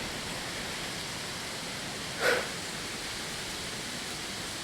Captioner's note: wind gusting